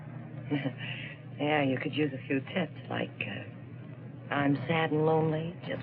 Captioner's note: chuckles